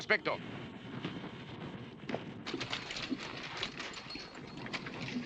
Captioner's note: horses cantering